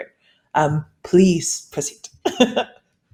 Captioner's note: laughs